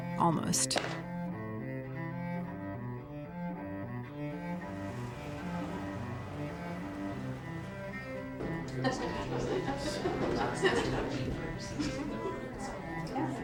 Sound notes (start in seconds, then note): 2.4 soft violin music; 9.1 people chattering